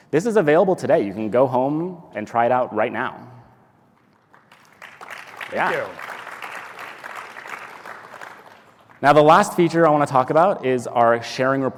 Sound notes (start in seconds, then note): 4.0 applause